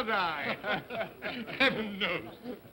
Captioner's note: men chuckle